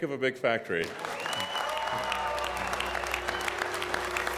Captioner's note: audience cheering